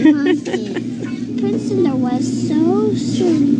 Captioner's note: laughing